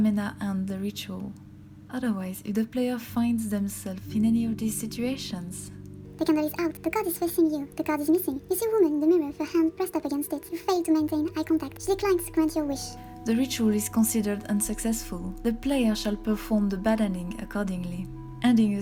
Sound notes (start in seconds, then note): 7.8 high pitch, accelerated voice